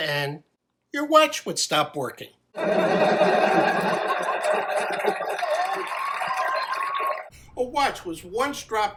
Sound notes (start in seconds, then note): 5.7 laughing